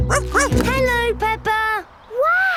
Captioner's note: snorts; barks